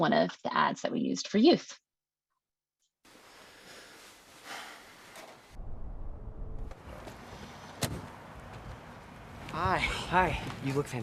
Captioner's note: sighing